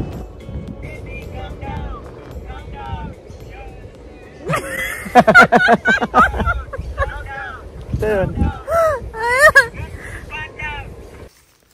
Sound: laughter

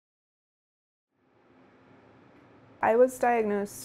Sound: room Sound

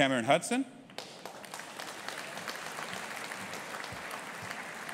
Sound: audience applauding

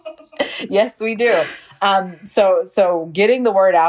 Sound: laughs

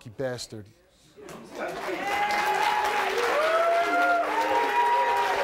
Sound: audience applauds

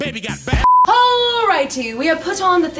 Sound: beeps

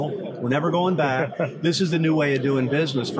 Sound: laughs

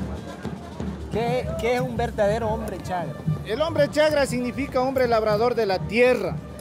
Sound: speaking in foreign language

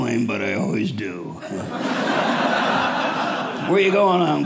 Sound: audience laughing

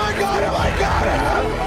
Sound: screaming

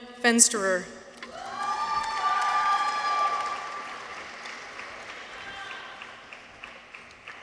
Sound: people cheer; audience applauds

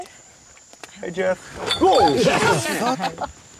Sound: screams and bottles clink

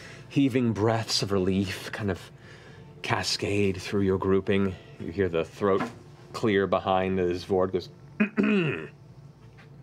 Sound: clears throat

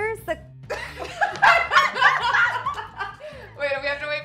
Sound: laughing

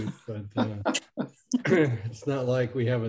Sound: others chuckling

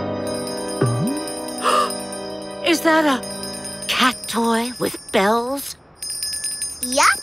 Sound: ringing; gasping

